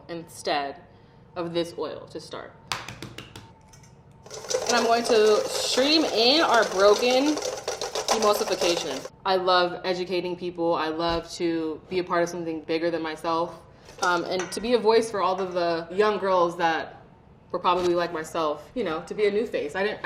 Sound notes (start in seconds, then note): 2.7 egg hitting board